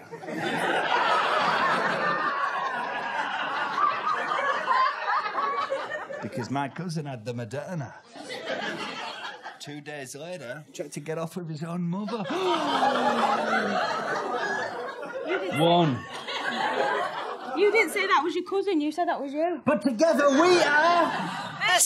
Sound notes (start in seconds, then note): 0.0 audience laughs; 8.0 audience laughs; 12.0 audience laughs; 12.3 theatrical gasp